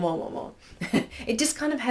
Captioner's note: chuckles